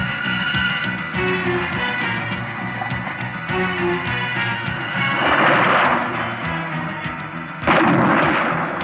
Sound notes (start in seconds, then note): 4.9 splashing